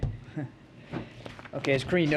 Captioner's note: laughs